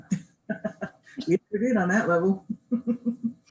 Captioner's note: laughs